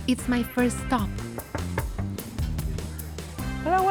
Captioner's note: knocking